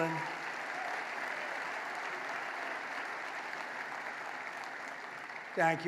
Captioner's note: applause